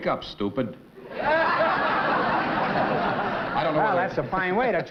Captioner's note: laughter